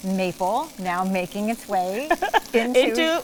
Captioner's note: laughs